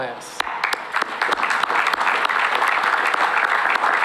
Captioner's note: applause